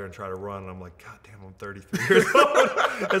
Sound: both laughing

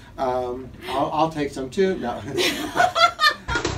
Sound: laughter

